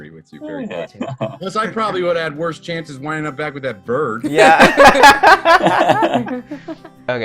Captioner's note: laughter